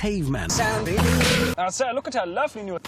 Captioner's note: stock unedited whip sound effect